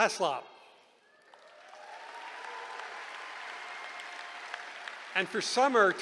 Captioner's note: cheering